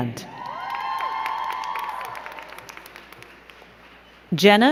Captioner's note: crowd cheering and clapping